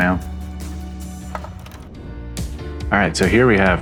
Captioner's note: Slide projector click